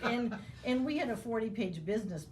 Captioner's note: laughing